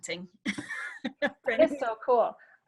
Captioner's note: laughing